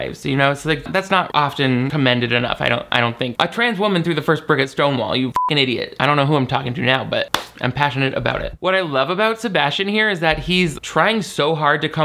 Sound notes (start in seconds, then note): 5.3 beep